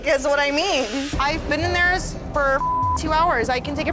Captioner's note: beep